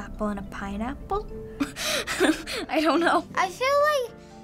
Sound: laughing

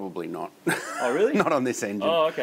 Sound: laughs

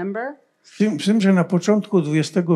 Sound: foreign language

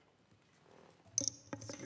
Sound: microphone being dragged noise

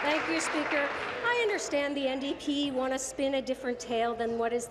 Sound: applause

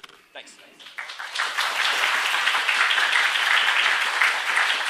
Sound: applause

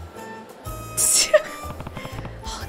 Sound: snickers

